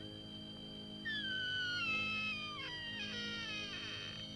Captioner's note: creaking